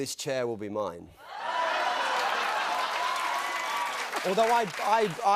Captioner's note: cheers and applause